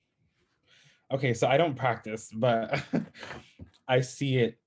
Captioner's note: chuckles